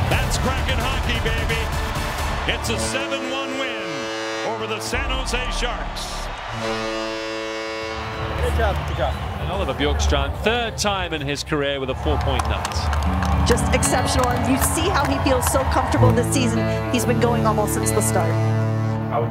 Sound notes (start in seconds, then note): 6.2 timer buzzing